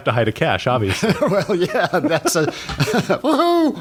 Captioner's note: laughter